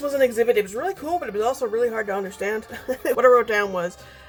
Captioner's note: laughs